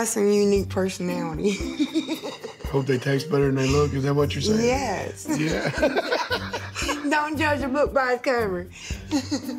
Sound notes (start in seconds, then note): 5.3 laughs